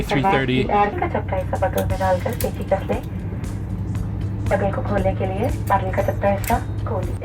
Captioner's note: air hostess instructing in Hindi language